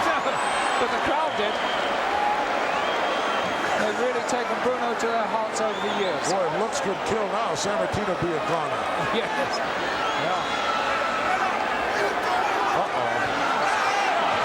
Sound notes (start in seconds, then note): 10.5 laughs